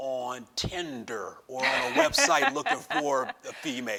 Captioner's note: laughs